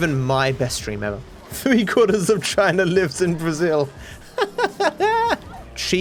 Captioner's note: laughs